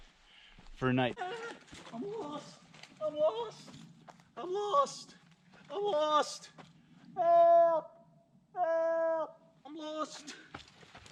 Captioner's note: yelling panickedly